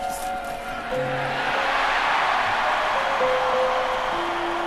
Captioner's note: cheering